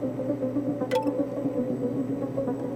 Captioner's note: computer chimes